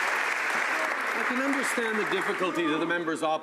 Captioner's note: some Applause